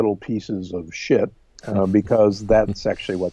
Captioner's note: quietly chuckling